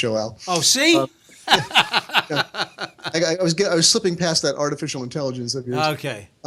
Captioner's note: laughs